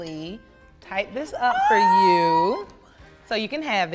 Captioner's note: squeals excitedly